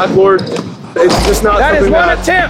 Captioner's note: dunk sound